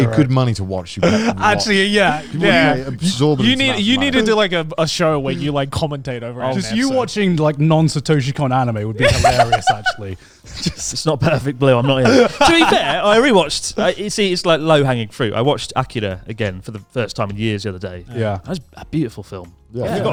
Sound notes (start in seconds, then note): 1.0 chuckling; 9.0 laughs